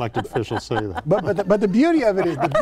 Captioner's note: laughing